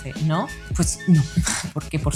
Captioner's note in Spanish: ríe